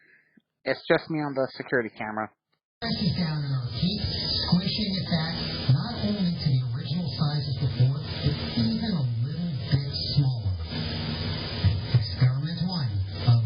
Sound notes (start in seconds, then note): 2.8 "21Alive News at 4" plays in background